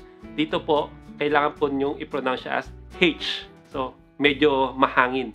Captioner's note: bristish pronunciation